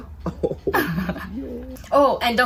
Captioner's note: laughing